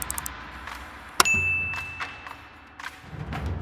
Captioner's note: typewriter clicking; bell dings; upbeat music